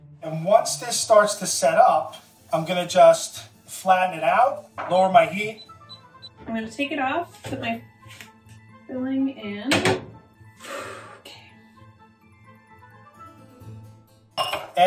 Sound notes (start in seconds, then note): 10.6 sighing; 12.1 suspenseful music